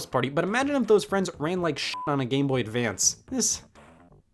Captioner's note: beep